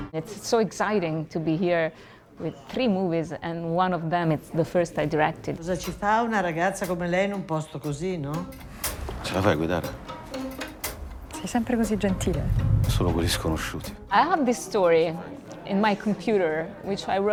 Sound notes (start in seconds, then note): 6.5 speaking Italian